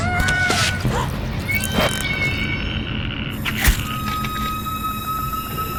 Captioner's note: Wendy gasping; Wendy screaming; eyeballs squelching